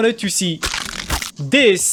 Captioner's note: bone cracks